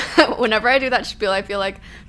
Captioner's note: she laughs